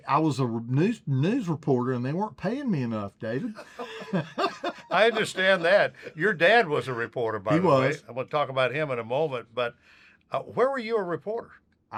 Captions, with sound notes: - I was a news reporter and they weren't paying me enough, David. [both laughing] - I understand that. Your dad was a reporter, by the way. - He was. - I'm gonna talk about him in a moment, but where were you a reporter?